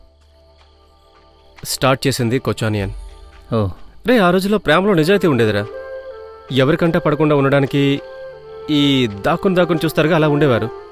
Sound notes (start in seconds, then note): none